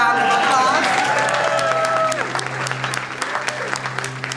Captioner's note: applause